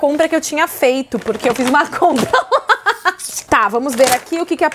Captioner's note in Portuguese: risos